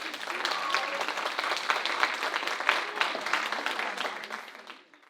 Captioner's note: audience applauding